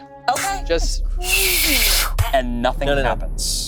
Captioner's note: arrow poofs and whistles; group gasping